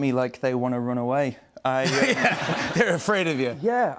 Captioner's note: laughter